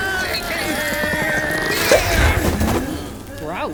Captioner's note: pop!